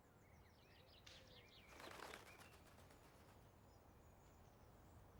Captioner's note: bird wings flapping